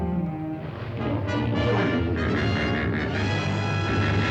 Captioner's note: hippos bellowing